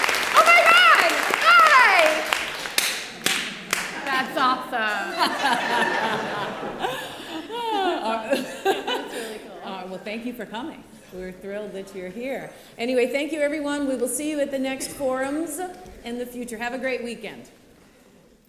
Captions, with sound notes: Oh, my God! Hi! That's awesome. [LAUGHTER] That's really cool. Well, thank you for coming. We're thrilled that you're here. Anyway, thank you everyone. We will see you at the next forums in the future. Have a great weekend.